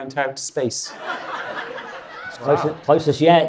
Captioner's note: audience laughs